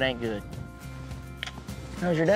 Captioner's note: smooch